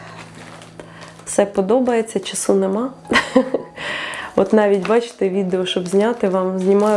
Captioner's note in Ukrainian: сміх